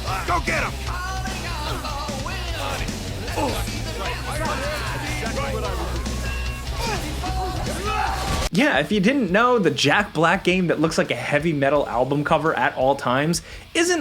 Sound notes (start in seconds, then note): 0.2 energetic rock music; 1.9 headbangers chattering; 3.7 Eddie grunts